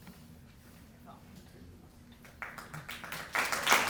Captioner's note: applause